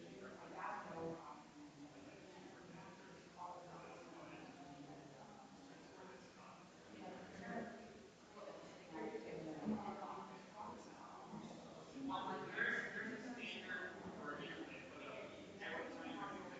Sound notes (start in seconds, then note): 5.9 people chattering distantly continues